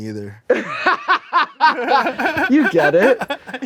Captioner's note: both laugh